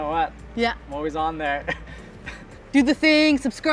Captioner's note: laughing